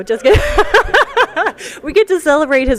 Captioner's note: laughter